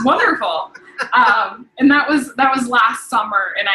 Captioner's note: laughing